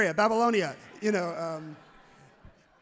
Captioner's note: crowd laughs loudly